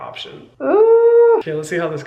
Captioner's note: Hyram groaning